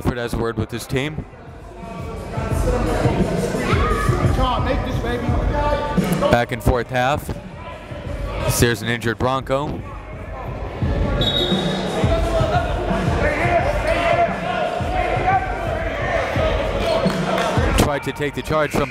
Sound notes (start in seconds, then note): 3.3 gymnasium bustles loudly; 11.2 whistle blows; 15.7 uptempo music